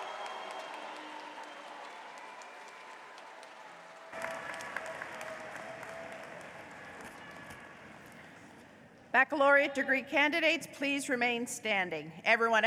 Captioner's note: applause